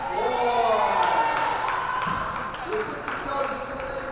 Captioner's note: crowd cheers